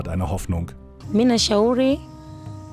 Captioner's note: she speaks her language